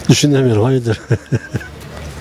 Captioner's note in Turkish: Gülme sesi